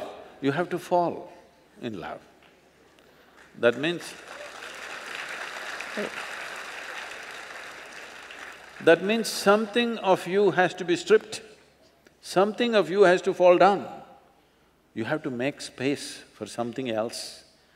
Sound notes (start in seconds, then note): 6.2 applause